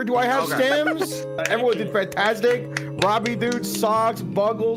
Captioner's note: clapping